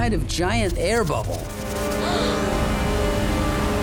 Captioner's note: gasping